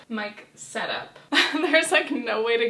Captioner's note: chuckling